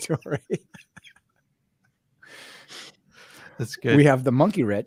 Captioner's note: both laughing